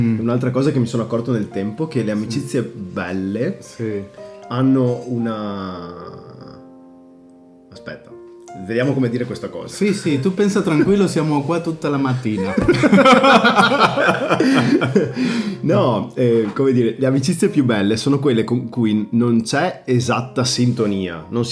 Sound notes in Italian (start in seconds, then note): 15.1 risate